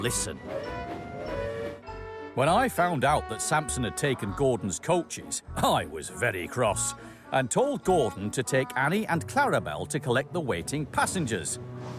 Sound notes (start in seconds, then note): 0.1 samson whistles